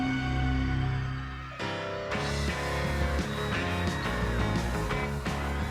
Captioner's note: cheering